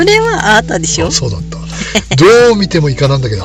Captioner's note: laughs